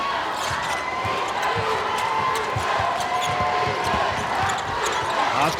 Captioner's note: crowd